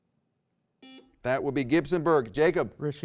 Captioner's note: buzzer rings